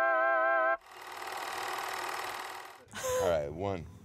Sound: film projector clicking

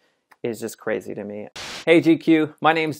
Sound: static noise

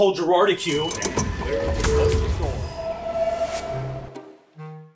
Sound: train doors whirring; gentle instrumental music

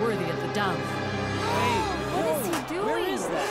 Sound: gasping

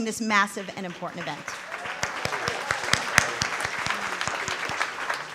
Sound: applause

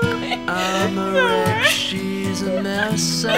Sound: laughs

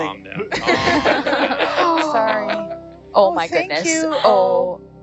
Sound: everyone laughs

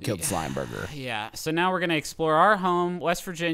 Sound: sighs

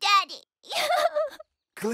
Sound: sobbing

